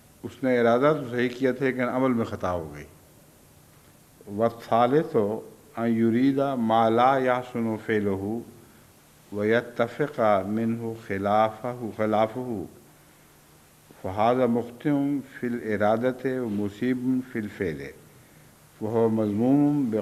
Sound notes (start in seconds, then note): 4.2 Arabic